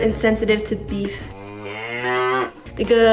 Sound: cow mooing

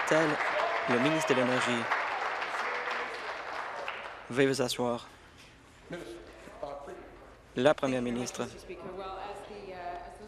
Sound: applause

